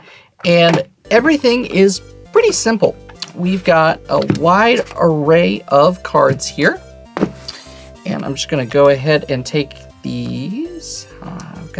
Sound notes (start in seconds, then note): 2.2 new song begins; 7.1 box thuds